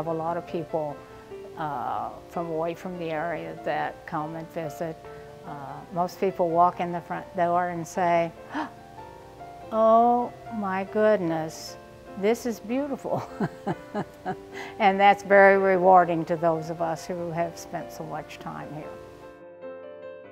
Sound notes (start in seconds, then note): 8.4 gasp; 13.2 laughing